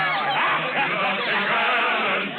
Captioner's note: cheering